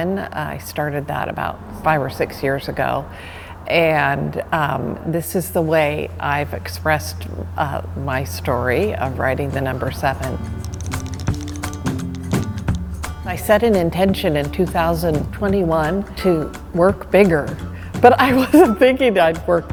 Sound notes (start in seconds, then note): 10.2 brush tapping; 18.2 laughter